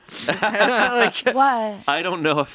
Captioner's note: laugh